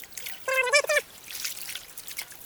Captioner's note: more mouse noises